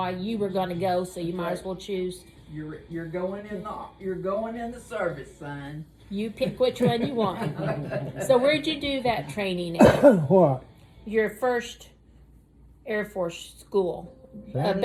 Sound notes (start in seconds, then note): 6.5 laughs; 9.8 coughs